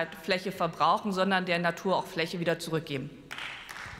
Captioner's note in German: Beifall